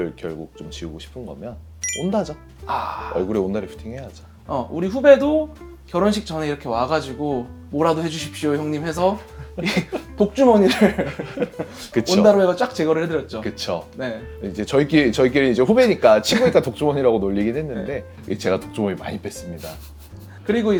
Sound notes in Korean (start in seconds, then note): 10.6 웃음